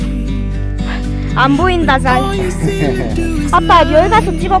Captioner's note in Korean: 아빠웃음